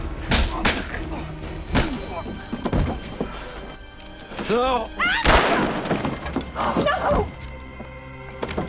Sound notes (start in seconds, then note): 5.2 gunshot